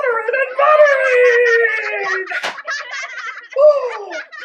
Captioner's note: laughter